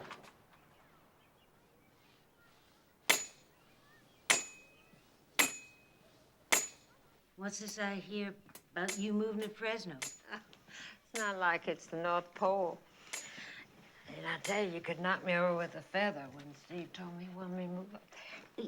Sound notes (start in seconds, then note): 2.7 bangs; 10.2 chuckles